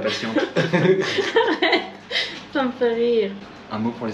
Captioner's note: laughing